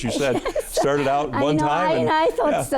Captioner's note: laughing